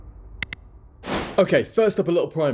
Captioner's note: electronic clicking; whoosh